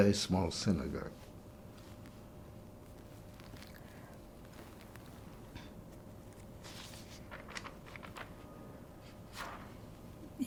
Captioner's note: pauses 8 seconds